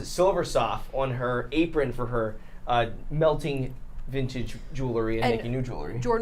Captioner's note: none